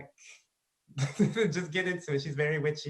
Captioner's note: laughs